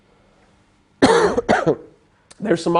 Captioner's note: cough